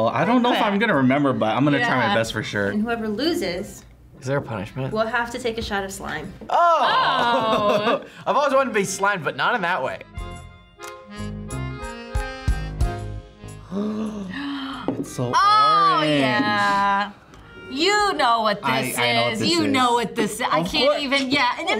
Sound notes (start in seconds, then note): 9.0 accordion music; 13.6 gasps